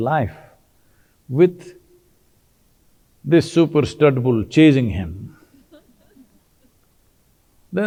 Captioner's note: few Laughs